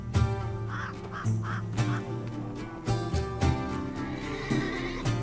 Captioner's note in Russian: Ворон громко каркает